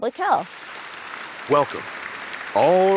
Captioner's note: audience applauding